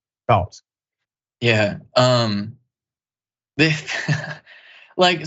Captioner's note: laugh